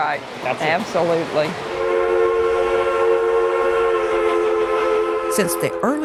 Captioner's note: train whistle blows